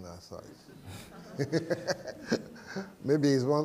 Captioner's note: laughter